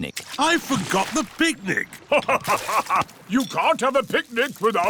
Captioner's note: laughs